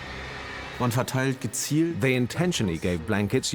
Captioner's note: in German; dubbed in English